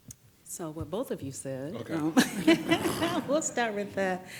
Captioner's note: laughs